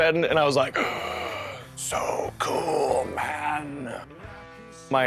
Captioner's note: audible gasp